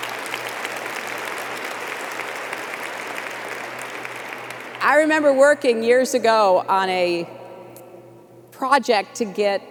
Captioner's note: applause